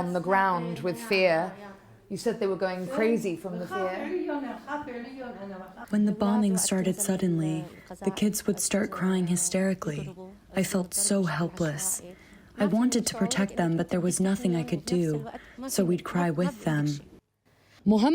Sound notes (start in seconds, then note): 6.6 through translator